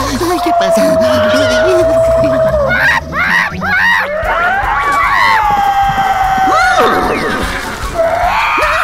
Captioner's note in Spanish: Gritos de miedo de los animales